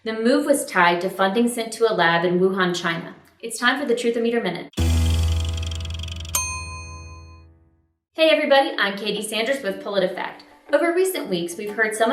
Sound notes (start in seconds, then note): 4.7 dramatic bong; 4.8 meter ticking; 6.4 bell pings